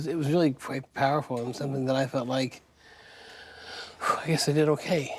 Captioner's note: sharp exhale